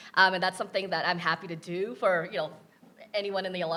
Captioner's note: none